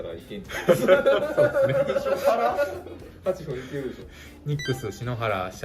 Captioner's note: laugh